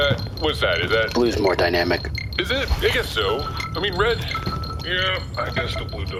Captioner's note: grumpily